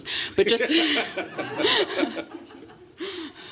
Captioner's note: laughter